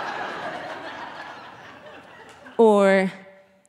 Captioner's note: audience laughing